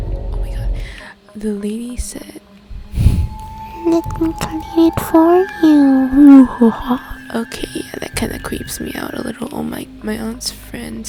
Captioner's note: dramatic sound effect